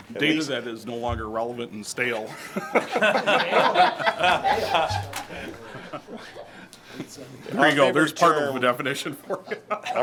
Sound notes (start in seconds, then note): 2.3 group laughs